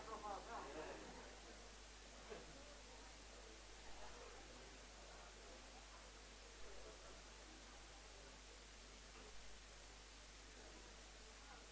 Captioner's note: background chatter